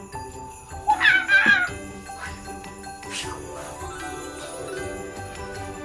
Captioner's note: Arizona shrieks, whooshes